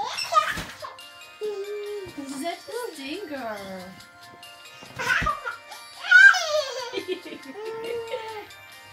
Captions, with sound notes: *giggling* you're such a stinker! *giggling* *laughing*